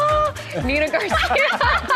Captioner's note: laughing